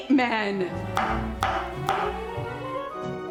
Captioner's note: loud chopping